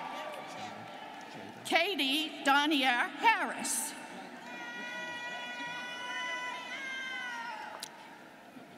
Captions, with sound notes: - Katie Donniere Harris. (students cheering)